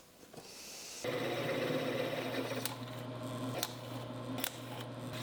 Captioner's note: machine whirring